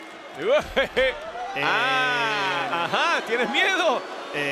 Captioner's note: laugh